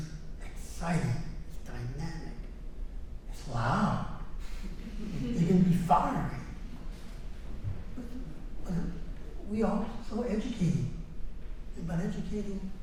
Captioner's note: laughter